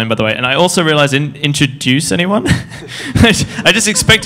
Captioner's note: laughs